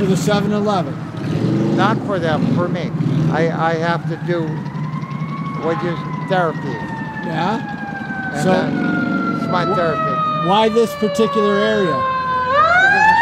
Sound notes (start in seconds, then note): 5.2 sirens